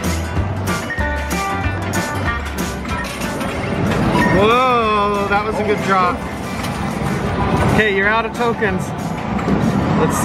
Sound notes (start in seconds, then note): 2.9 coins jingling